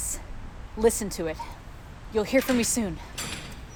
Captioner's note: door is opening